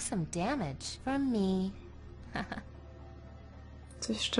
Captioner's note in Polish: ha ha